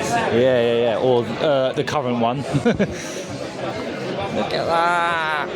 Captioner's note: laughs